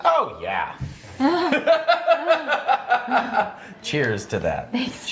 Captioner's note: both laughing